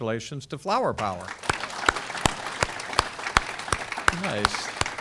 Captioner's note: audience clapping